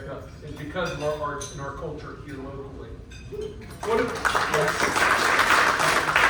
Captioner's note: clapping